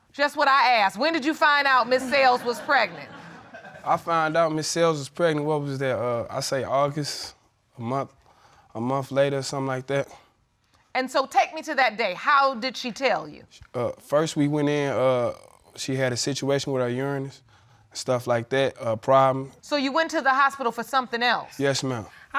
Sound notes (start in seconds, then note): 1.8 audience laughing